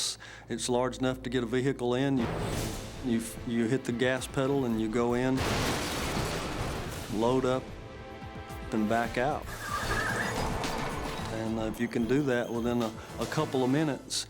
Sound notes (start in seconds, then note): 5.4 truck crashes; 9.4 tires screeching